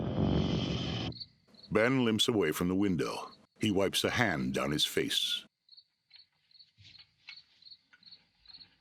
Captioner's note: crickets chirping